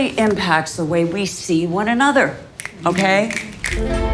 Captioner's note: fingers snapping